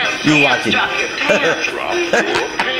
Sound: George laughs

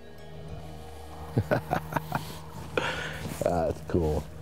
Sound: chuckling

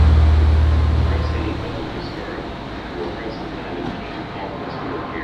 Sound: flight announcements over pa

